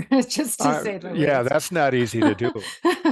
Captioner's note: laugh